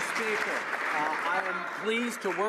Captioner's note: some Applause